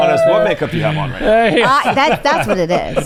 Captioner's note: laughs